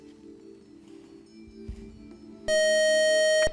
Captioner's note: buzzer